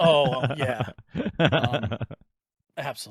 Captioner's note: laughing